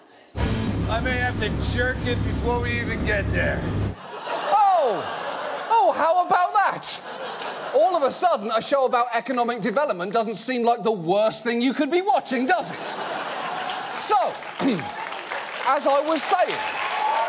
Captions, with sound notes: I may have to jerk it before we even get there. -(AUDIENCE LAUGHING) -Oh! Oh, how about that? All of a sudden, a show about economic development doesn't seem like the worst thing you could be watching, does it? -(AUDIENCE LAUGHING) -So... (CLEARS THROAT) -As I was saying... -(AUDIENCE CHEERS)